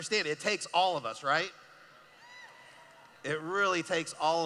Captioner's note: cheering